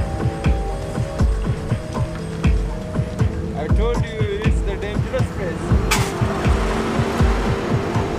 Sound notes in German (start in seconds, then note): 0.8 Spannungsvolle Musik; 4.0 Motorengeräusche